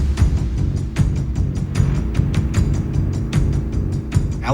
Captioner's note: ominous music; dirt bike engine revving